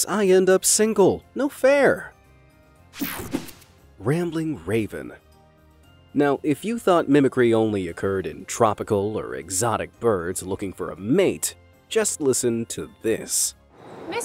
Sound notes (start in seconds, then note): 3.0 logo snaps